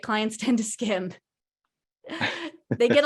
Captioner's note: laughing